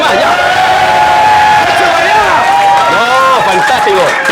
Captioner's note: shouts